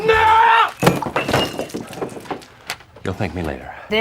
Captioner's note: mug clanking